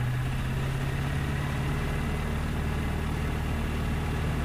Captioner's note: plane engine hums